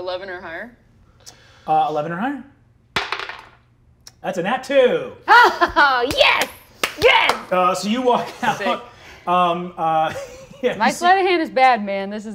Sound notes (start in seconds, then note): 2.9 dice clatter; 5.3 laughing; 10.0 chuckles